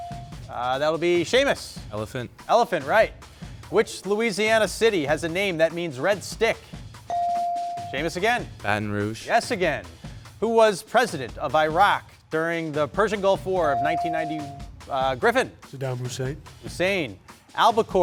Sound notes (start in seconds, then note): 5.5 bell dinging; 13.7 bell dinging